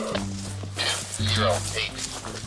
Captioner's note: nutcracker call